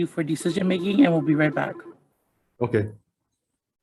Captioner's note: telephone ringing